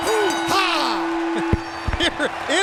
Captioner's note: bell ringing